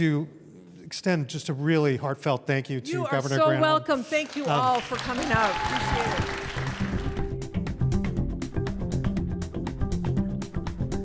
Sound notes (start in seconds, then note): 6.4 audience applause; 7.6 upbeat music